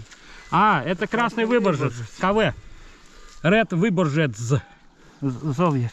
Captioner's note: man speaking in foreign language